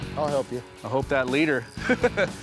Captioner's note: laughs